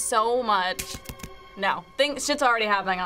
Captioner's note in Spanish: se apaga la luz